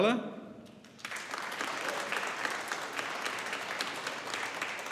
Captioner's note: audience applauding